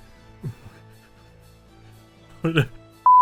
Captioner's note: stifled snickering